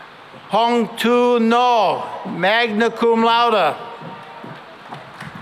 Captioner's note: applause